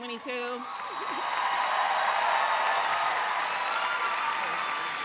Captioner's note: audience applauds